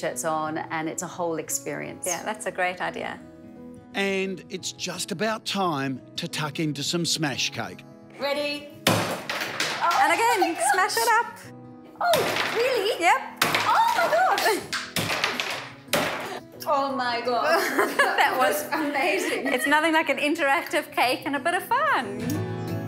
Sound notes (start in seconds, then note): 13.4 banging; 17.5 laughing